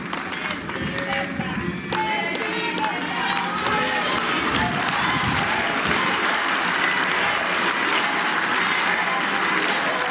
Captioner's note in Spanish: aplausos